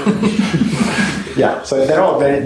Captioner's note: laughter